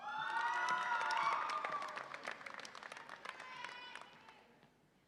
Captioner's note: audience applauds and cheers